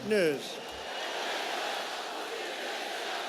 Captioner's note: crowd; crowd cheers